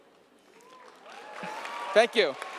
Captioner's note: audience applauding